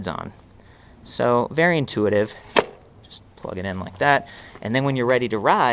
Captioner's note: snapping sound